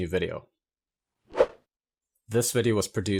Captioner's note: air whooshing